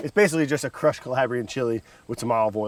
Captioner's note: air whooshes